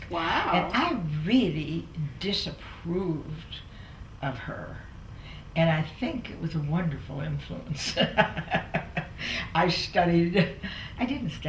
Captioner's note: laughter